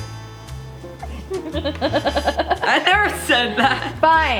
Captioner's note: laughs